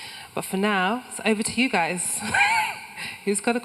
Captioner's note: laughs